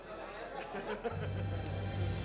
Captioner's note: laughing